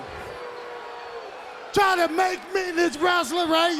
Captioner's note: crowd chatter